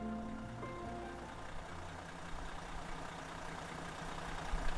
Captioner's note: soft piano music; loud engine running